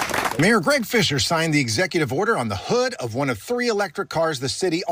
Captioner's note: applause